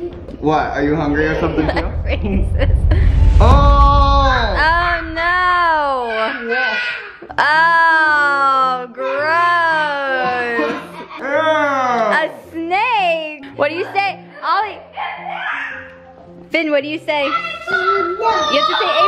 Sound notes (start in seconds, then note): 6.5 boys laughing; 15.4 boys screaming